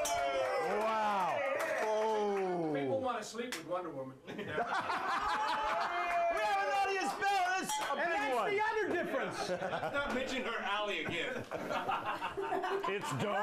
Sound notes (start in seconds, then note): 0.0 bell rings; 4.7 bell Rings; 5.0 audience cheers